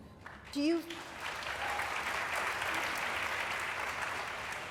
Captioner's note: applause